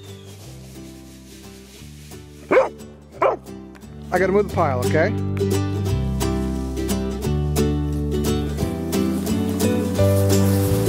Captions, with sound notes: (dog barking) I got to move the pile, okay. (upbeat music)